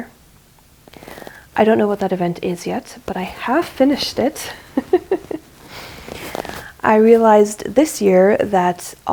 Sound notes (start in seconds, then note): 4.4 laughs